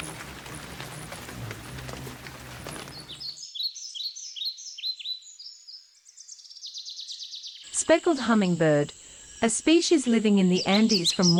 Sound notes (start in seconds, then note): 3.2 bird singing